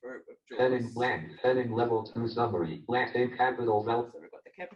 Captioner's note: JAWS speaking disjointedly